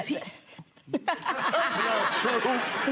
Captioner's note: laughing